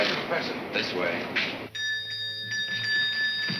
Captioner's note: bell ringing